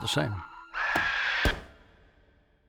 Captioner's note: alien screeches